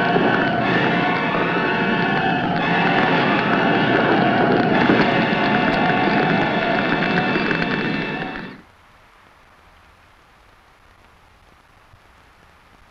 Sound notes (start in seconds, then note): 3.0 flames crackling; 3.0 flames roaring